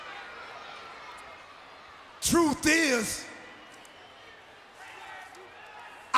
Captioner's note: applause